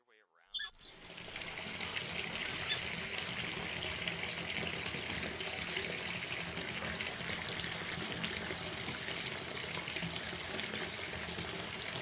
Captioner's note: water Running